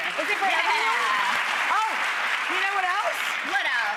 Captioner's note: audience claps